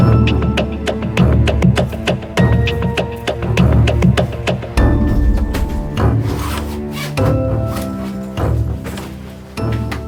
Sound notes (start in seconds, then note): 5.1 bag zipping